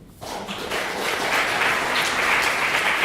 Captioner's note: clapping